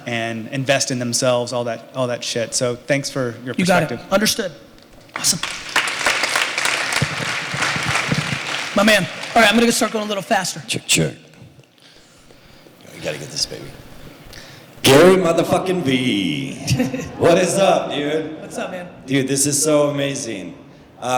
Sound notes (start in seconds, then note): 5.1 applause